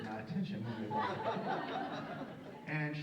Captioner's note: audience laughs